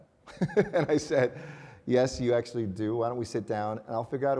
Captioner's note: laughs